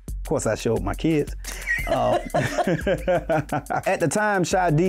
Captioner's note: laughter